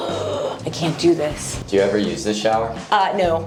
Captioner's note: gasping